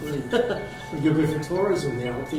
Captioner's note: laughs